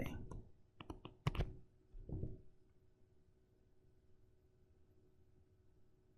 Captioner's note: tapping Sounds